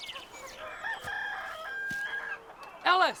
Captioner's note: birds chirping; rooster crows